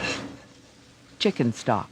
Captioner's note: voiceover